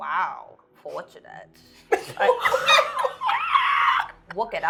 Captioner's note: laughing